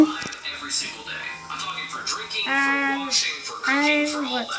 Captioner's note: voice on computer